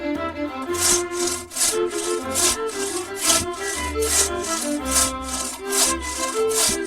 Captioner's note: metallic sawing